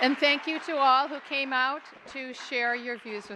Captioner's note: applause